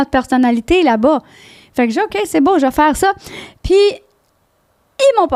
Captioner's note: in french